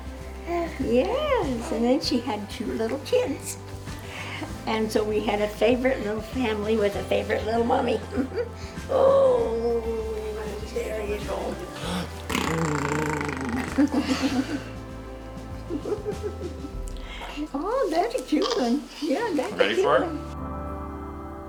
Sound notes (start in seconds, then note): 11.8 blows raspberry; 15.6 laughter